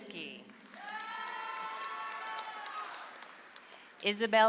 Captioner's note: audience applauds